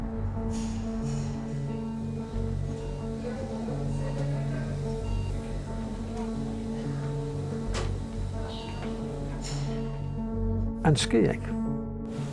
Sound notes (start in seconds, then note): 3.9 medical equipment beeping